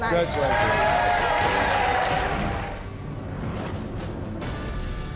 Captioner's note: audience applauding